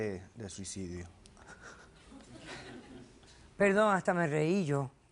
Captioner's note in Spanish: Risas